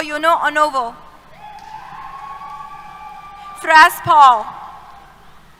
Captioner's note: cheers